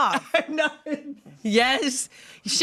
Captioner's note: laughs